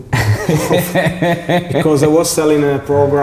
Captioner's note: laughing